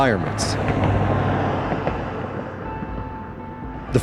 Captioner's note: car drives